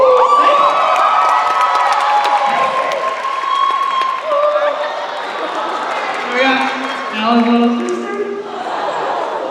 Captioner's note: cheers and applause